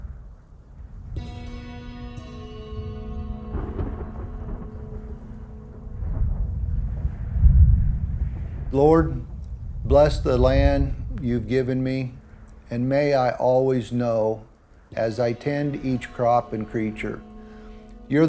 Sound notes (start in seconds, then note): 1.1 slow music; 4.5 thunder